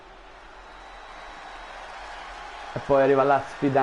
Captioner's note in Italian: Applauso